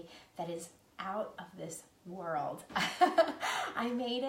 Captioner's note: laughing